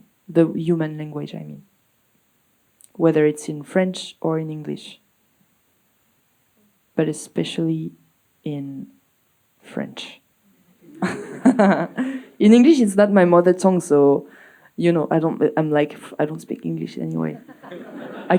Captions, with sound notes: the human language, I mean, whether it's in French or in English, but especially in French. [laughs] In English, it's not my mother tongue, so, you know, I don't, I'm like, I don't speak English anyway.